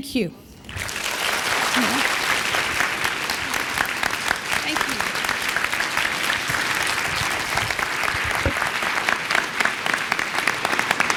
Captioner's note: applause